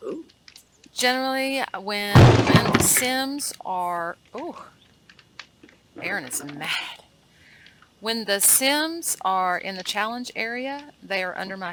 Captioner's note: loud bang